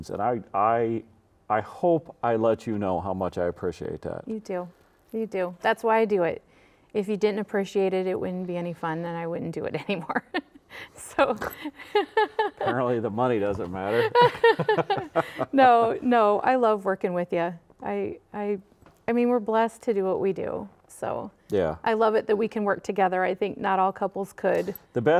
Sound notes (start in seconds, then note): 10.8 laughing; 13.8 laughing; 13.8 laughs